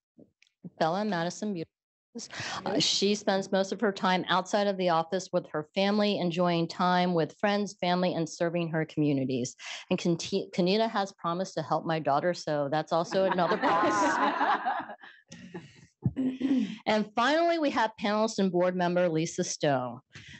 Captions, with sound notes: Bella and Madison, beautiful girls. She spends most of her time outside of the office with her family, enjoying time with friends, family and serving her communities. Ka'Neda has promised to help my daughter. That's also another plus. [laughter] Finally, we have panelist and board member, Lisa Stone.